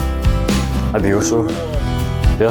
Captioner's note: bear Growl